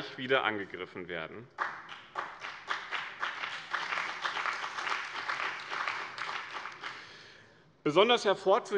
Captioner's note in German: Beifall bei dem BÜNDNIS 90/DIE GRÜNEN und der CDU